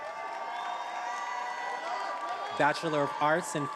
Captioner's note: attendees applauding and cheering